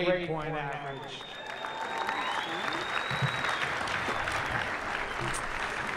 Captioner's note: applause